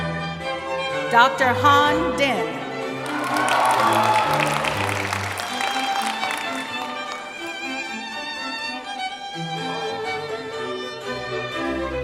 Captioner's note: cheering; applause